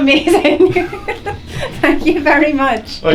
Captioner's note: laughter